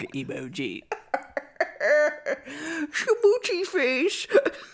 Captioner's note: cackles